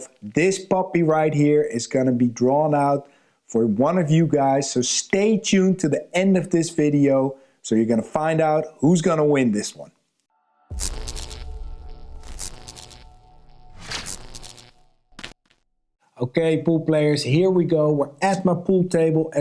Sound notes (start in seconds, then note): 10.7 electricity zapping softly